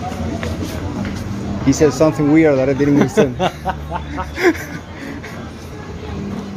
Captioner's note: laughs